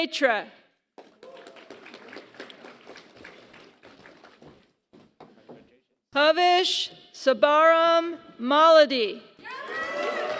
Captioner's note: applause; applause